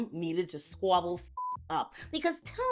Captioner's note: beep